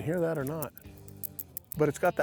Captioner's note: bead and weight clicking